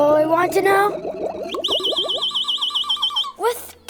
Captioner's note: loud chirping